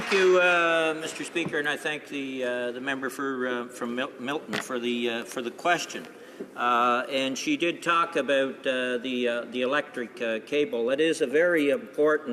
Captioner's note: applause